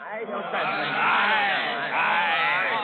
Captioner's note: chatter